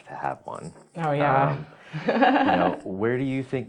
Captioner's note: laughs